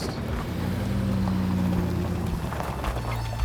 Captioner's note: engine revs; somber orchestra music